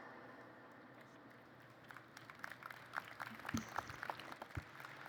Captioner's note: applause